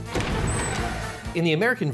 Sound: doors creaking

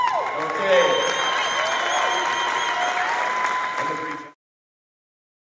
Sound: applause and whistling

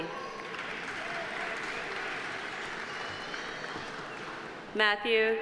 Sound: audience applauding

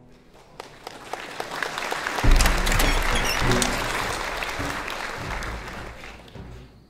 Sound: applause

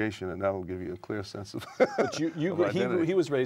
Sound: laughter

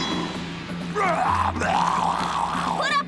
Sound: growling

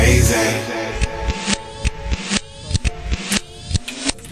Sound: film rewinding

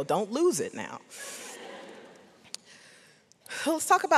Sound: audience laughs

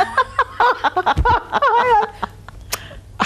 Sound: laughing

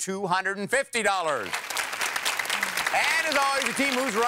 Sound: applause

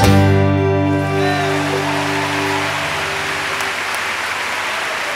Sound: audience applauds

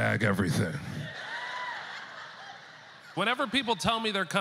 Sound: audience laughter

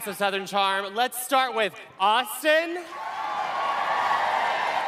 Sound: cheering

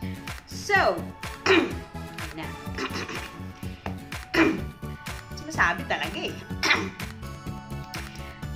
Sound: throat clearing

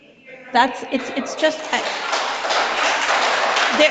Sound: audience claps

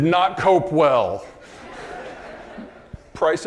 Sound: audience laughing

